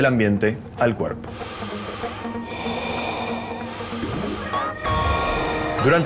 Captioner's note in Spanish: Inhalaciones, exhalaciones